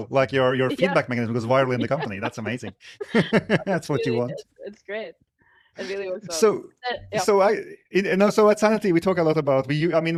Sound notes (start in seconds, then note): 0.4 laughs; 3.0 laughing